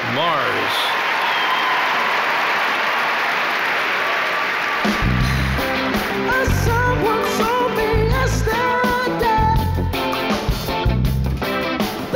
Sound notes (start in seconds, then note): 1.7 audience cheering; 1.7 audience clapping; 5.8 upbeat instrumental music